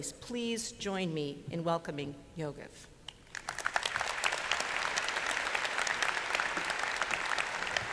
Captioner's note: applause